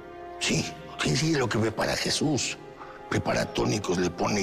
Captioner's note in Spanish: none